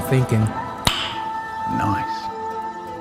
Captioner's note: pop